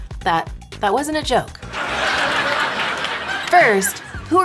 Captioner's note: audience laughing